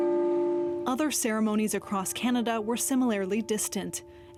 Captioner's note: bell tolling